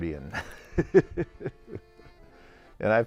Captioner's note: laughs